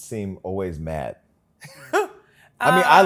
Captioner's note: laughs